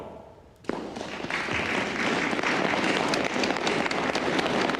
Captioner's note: tepuk tangan